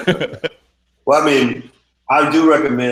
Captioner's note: laughing